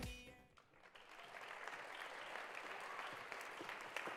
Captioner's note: applause